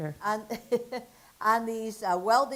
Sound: laughs

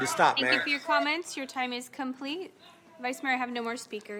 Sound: crowd noise

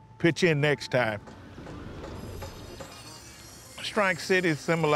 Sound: birds chirping

